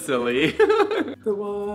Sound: giggling

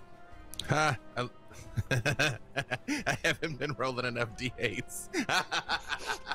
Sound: laughing; laughs

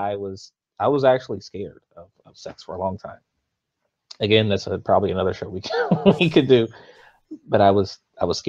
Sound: laughs

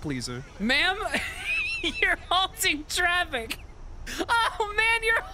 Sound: as Peter, laughing; slipping into normal voice, laughing harder

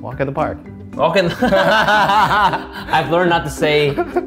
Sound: laughing

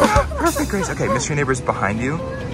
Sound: laughs

